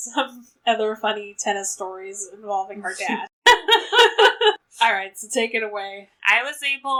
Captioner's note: laughs